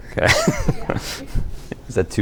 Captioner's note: laughter